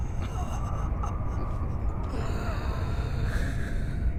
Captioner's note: chuckling